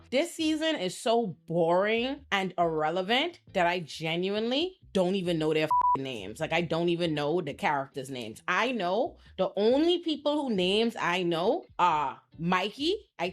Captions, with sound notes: This season is so boring and irrelevant that I genuinely don't even know their (beep) names. Like I don't even know the characters names. I know the only people who names I know are Mikey.